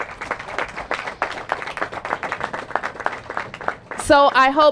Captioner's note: applause